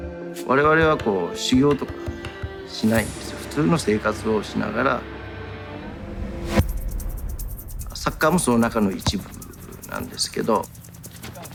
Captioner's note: speaking japanese